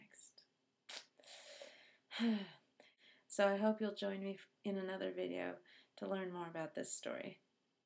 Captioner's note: sigh